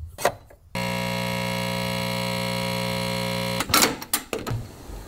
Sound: machine whirls

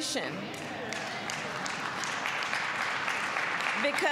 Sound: applause

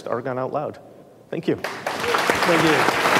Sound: audience applauding

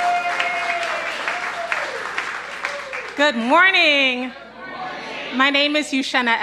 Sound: applause

